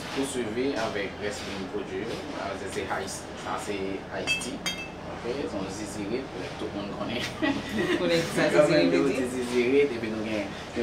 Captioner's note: laugh